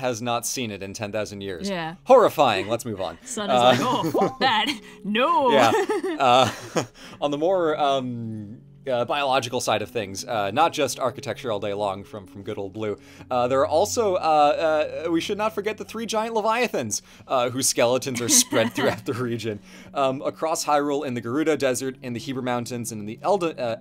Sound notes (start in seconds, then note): 6.1 laughs; 18.2 laughs